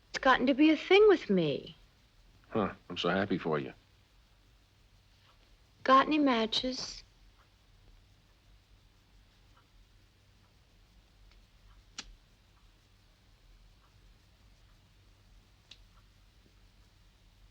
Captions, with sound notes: It's gotten to be a thing with me. - Huh, I'm so happy for you. - Got any matches? (lighter clicks)